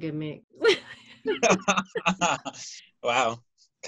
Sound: laughter

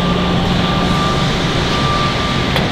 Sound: baghouse pulses

